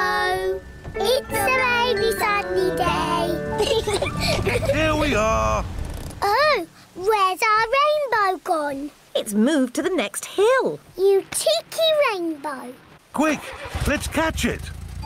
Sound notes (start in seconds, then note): 3.6 both laugh